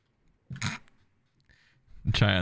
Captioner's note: silence; snorts